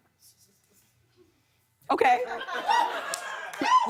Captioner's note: laughter